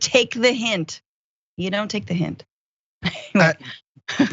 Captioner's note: laugh